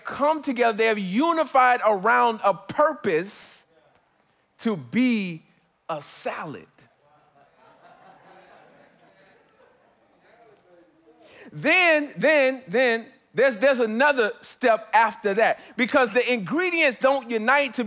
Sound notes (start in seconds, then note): 5.8 congregants affirming